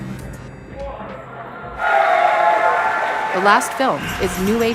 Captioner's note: applause